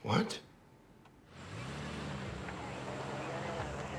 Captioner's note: police radio chatter